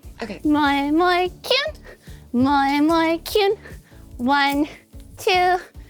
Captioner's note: speaking foreign language